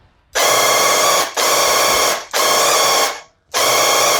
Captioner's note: paint gun blasting